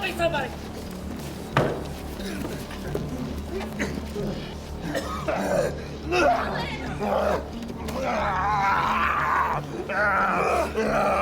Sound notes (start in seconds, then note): 4.8 Malkam coughing and groaning